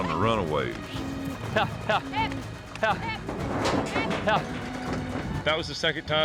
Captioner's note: both wrangling